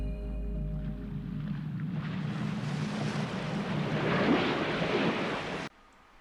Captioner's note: waves swooshing